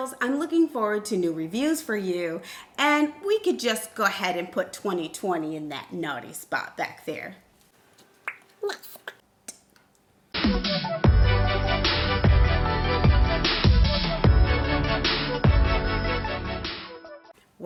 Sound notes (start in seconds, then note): 7.7 lips popping; 10.4 upbeat music